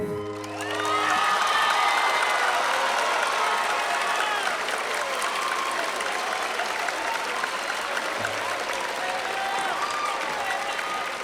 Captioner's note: applause